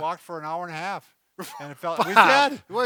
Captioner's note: scoffs